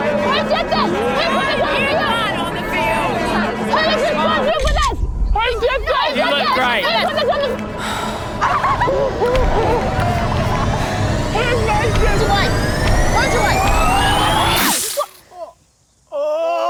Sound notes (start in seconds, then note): 7.7 sighs; 7.7 students laugh; 10.2 music intensifies; 14.6 splash!